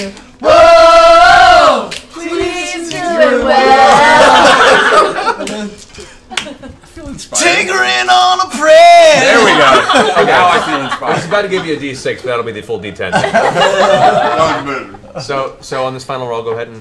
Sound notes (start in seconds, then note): 0.7 sing; 3.9 laughter; 8.0 sing